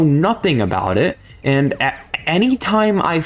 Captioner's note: stutter Moment